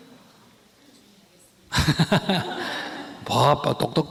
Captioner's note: laughter